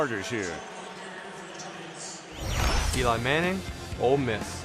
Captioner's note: pa announcement